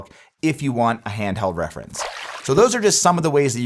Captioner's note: water splashing